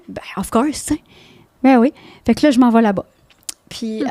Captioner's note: in french